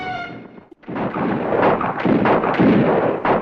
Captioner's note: guns fire